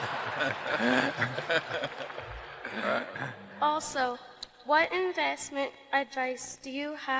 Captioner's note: laughter